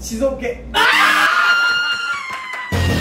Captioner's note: scream